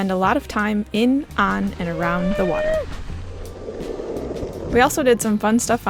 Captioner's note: cheering